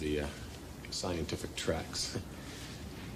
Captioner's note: chuckles